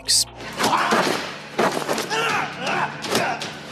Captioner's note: grunting, sounds of combat